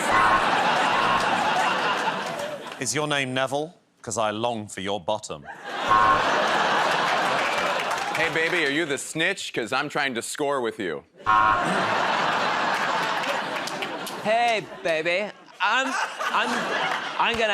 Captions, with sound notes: [ Laughter ] -Is your name Neville? 'Cause I long for your bottom. [ Laughter ] -Hey, baby, are you the snitch? Because I'm trying to score with you. [ Laughter ] -Hey, baby,